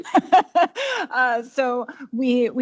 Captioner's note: laughs